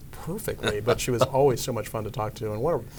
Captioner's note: laughing